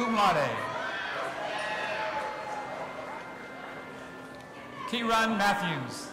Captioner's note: audience applauding and cheering